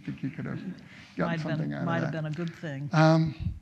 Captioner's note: audience laughs lightly